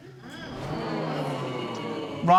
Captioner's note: audience murmuring